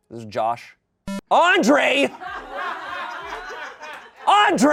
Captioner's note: audience laughing